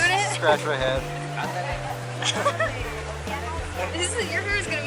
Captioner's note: laughing